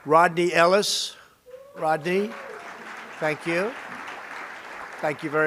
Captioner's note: applause